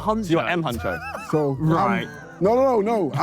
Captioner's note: JJ laughs